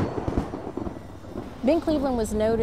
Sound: thunder

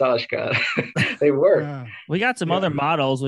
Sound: laughs

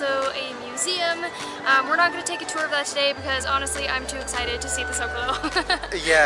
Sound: giggles

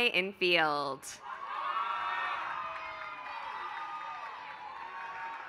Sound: applause

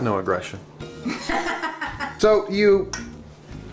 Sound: laughing

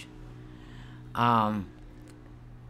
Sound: traffic noise continues

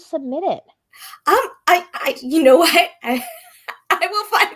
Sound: laughing

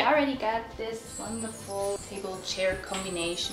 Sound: bell chimes

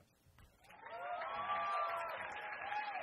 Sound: crowd cheers

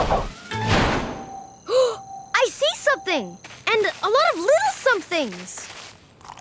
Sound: gasping

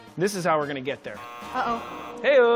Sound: buzzer

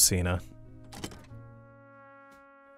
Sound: door opens

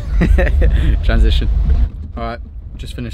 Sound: laughs

